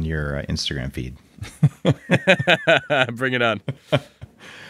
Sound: laughing

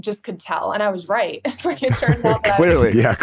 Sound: both laughing

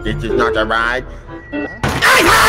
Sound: slam

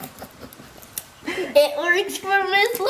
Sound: crunching; laughing

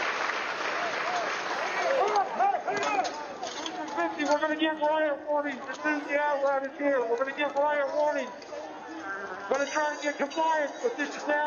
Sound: applause

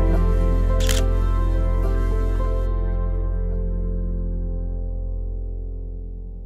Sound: gentle music; camera shutter clicks

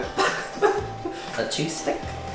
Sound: giggles

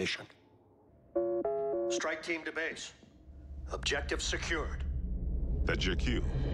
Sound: tone sounds

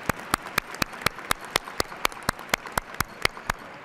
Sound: cheers and applause

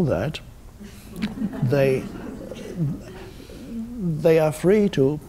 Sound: audience giggles

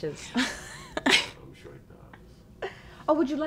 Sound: Cynthia giggles

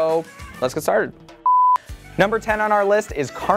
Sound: beep

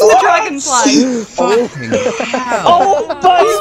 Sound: sounds of distress and cackling like a lunatic

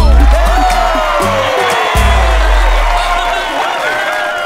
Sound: cheering

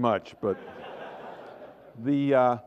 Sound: laughter

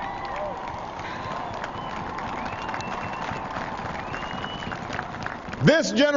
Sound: applause

